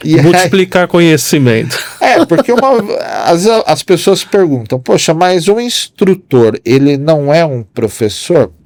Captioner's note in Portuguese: risadas